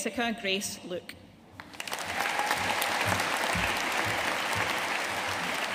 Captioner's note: audience applauding